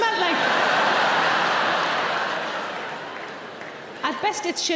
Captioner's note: audience laughs